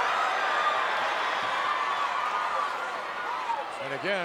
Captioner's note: crowd cheering